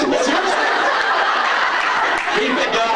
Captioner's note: laughs